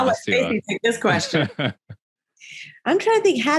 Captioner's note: all laughing